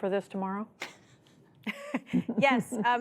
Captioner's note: laughter